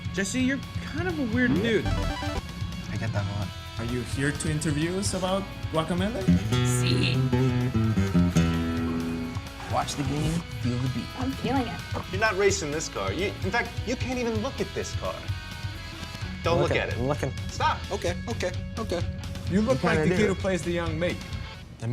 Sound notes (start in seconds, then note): 0.2 voiceover; 6.2 guitar strumming; 12.2 voiceover; 17.1 voiceover